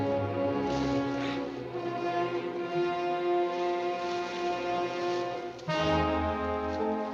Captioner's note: dramatic music continues; leaves rustling continues